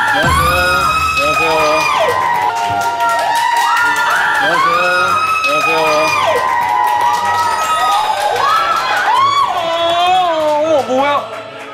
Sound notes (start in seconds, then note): 8.9 screaming